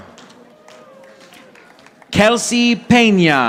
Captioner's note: audience applauding